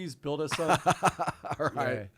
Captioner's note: laughing